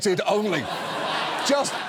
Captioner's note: studio audience laughs